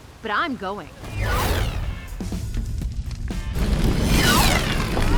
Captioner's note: Eve whooshes; upbeat music